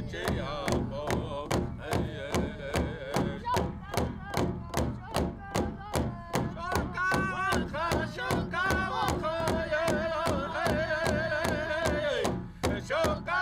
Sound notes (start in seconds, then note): 3.7 student chants in Lakota; 6.9 all chant in Lakota